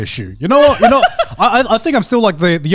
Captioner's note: laughing